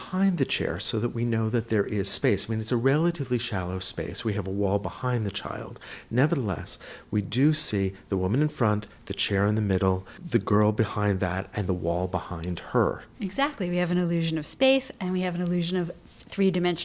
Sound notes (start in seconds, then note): 0.0 voiceover; 13.1 voiceover